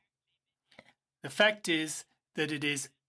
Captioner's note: speaking in French